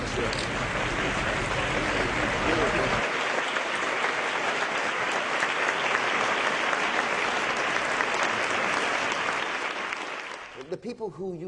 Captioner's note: clapping